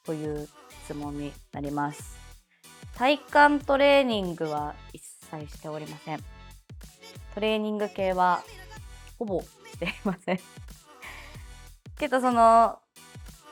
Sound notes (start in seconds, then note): 9.8 laughs